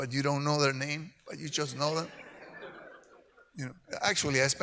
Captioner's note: audience laughs